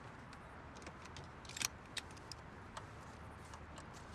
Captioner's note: seatbelt clicks